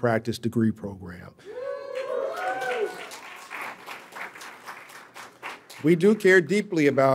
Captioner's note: audience cheering and applauding